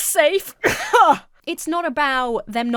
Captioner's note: laughs haughtily